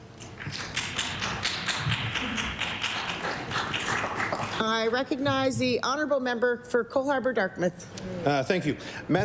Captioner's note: applause